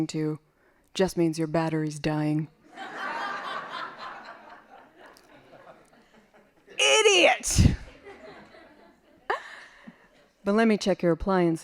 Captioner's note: laughing